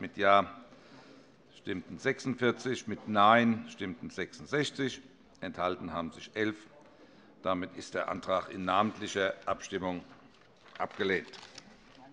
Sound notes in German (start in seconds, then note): none